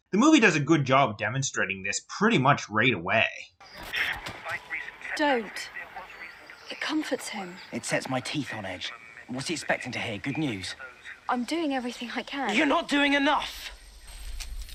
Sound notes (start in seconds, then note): 3.7 radio playing